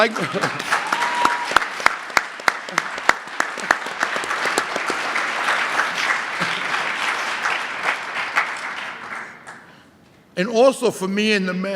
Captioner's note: audience applause